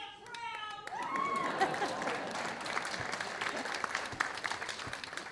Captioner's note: audience laughing